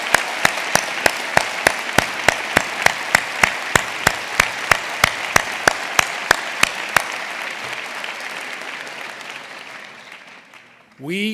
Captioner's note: applause